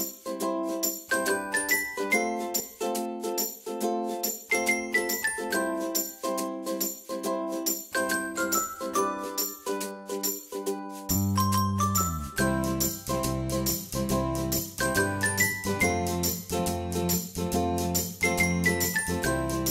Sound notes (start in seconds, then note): 9.2 brand chimes